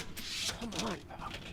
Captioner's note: clatter